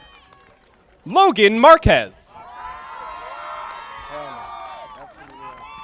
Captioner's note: audience applauding